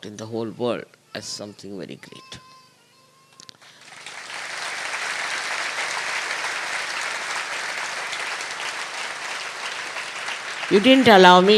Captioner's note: applause